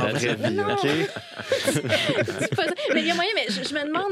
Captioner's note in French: rires